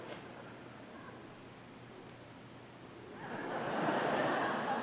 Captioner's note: audience laughing